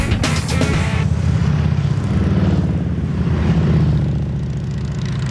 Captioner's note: engines roaring